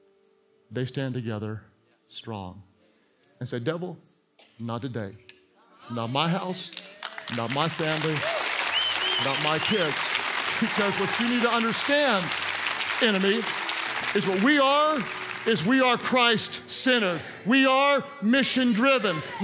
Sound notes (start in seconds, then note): 7.1 congregants cheer